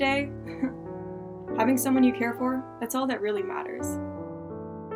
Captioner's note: chuckle